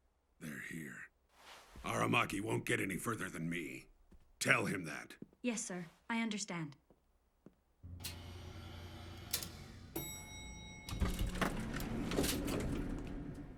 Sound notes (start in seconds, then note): 10.0 lift dings